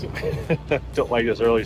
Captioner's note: chuckles